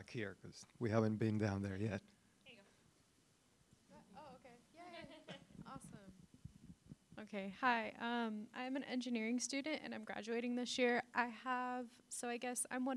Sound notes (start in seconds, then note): 2.2 background conversation